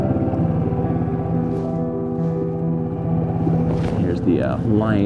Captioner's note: boat rumbling; soft music continues